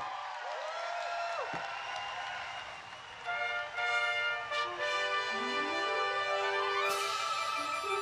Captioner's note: applause; patriotic music